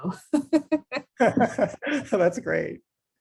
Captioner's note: both laugh